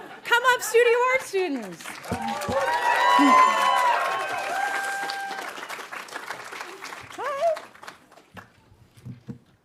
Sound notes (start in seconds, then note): 1.6 audience cheering and applauding